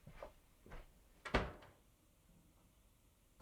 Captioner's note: door closes